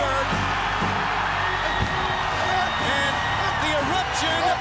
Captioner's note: crowd screaming